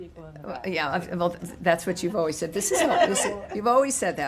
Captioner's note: laughter